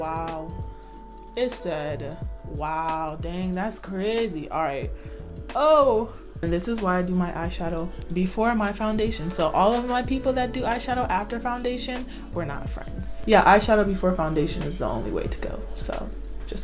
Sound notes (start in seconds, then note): none